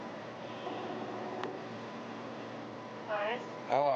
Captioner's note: telephone rings